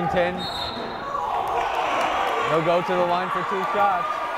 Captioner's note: whistle blowing